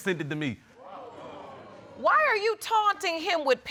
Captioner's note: audience gasps